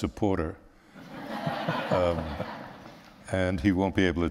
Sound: laughter

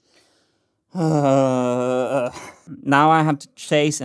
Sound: frustrated sigh

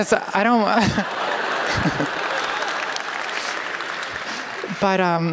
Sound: laughter; applause

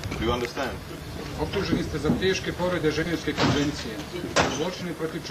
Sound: man speaks foreign language

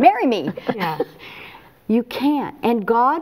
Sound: laughs

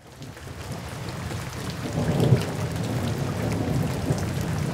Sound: rain and thunder

